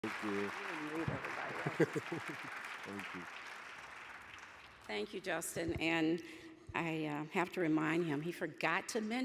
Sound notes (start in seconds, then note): 0.0 audience applauds